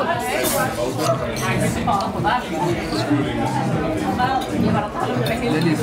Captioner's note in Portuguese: ambiência de restaurante